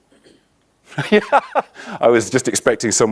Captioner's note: laughs